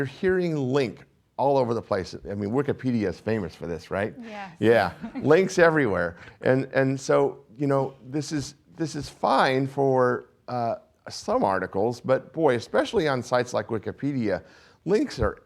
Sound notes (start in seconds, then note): 4.6 laughs